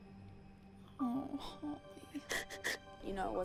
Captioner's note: sniffling